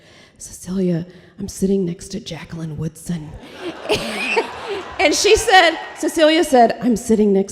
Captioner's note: laughter